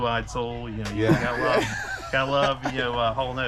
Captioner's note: laughing